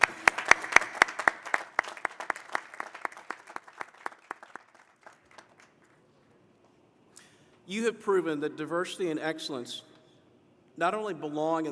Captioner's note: applause